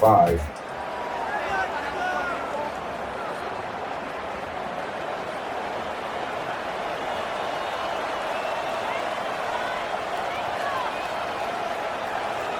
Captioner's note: crowd Noises